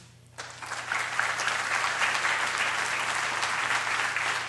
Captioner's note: applause